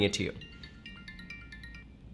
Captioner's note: alarm ringing